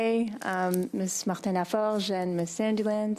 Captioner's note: speaking French